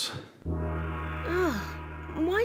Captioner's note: gong ringing